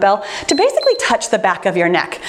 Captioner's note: timer beeps